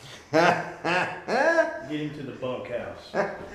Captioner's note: drunk man laughing